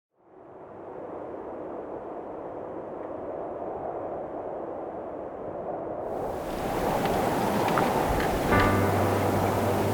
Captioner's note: wind blowing